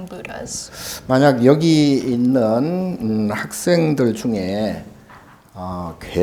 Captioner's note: speaking Korean